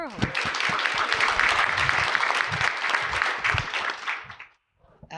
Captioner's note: audience clapping